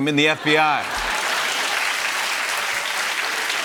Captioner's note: laughter and applause